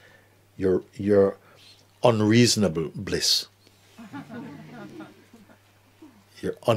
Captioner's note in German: Lachen